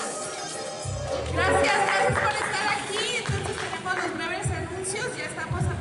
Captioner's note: speaking in foreign language